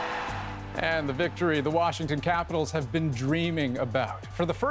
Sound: cheers and Applause

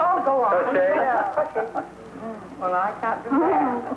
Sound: laughing

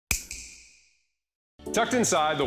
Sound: snap

